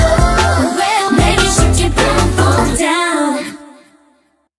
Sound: bboom bboom

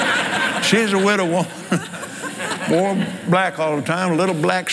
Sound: laughs

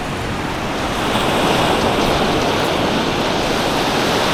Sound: sounds of the sea

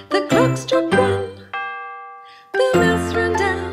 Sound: clock chiming

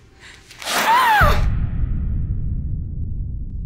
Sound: screams

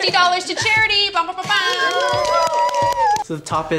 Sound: cheering

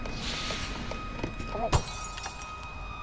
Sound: glass Breaking

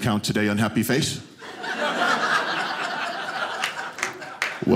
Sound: audience laughing

